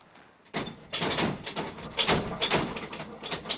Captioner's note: objects clattering